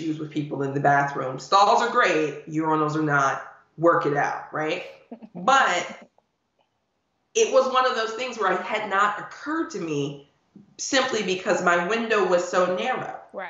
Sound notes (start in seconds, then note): 5.2 laughing